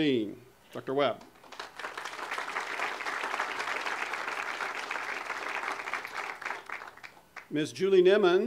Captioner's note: audience applause